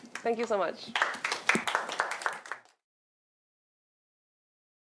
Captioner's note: applause